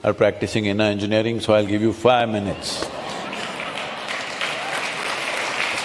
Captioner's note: laughter/Applause